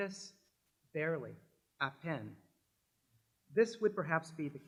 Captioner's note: french